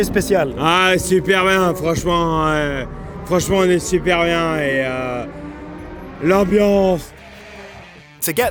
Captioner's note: replies in French